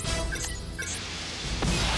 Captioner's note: radar beeps; button beeps, rockets blast